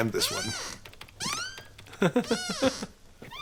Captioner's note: creak, creak, creaaaaak